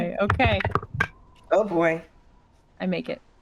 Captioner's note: dice rattling